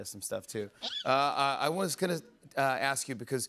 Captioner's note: squeals